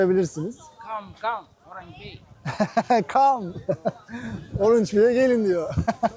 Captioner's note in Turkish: kahkaha